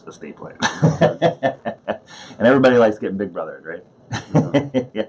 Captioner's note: laughs